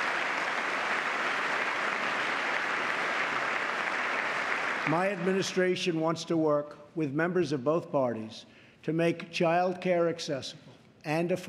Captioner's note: applause